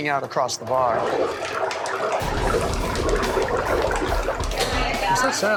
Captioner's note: fryer gurgling